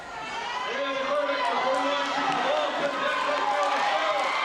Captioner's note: crowd cheering